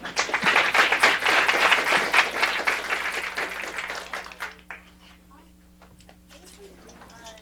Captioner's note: applause